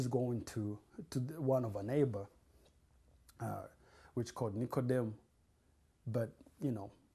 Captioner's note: non-english